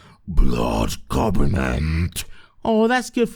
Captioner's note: death metal voice